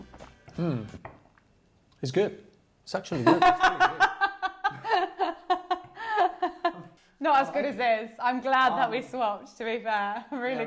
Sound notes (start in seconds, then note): 3.2 laughing